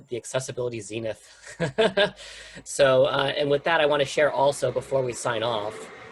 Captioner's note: laughter